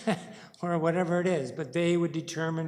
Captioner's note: chuckles